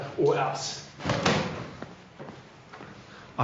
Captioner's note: slapping